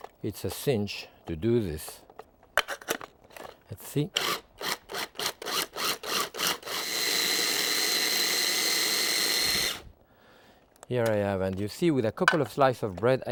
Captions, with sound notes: it's a cinch to do this. Let's see. (motor grinds) here I have, and you see with a couple of slice of bread,